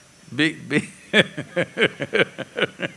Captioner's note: laughs